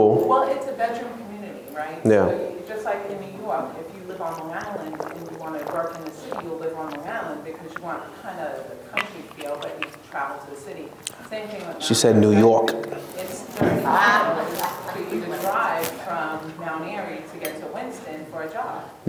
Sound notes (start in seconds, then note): 12.9 laughs